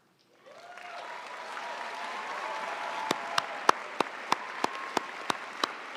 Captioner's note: audience cheering and applauding